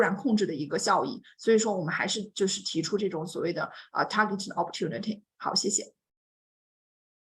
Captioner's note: speaks Mandarin